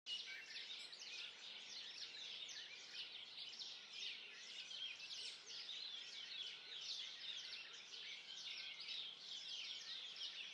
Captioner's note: birdsong